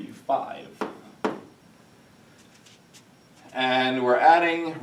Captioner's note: chalk tapping